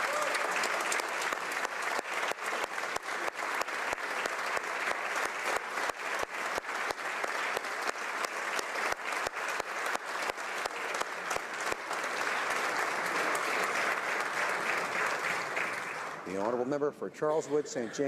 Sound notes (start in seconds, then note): 1.8 applause